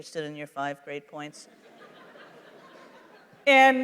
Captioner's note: laughter